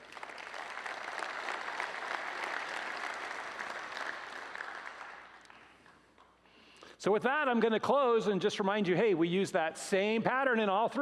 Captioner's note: applause